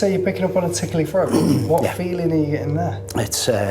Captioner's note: clearing throat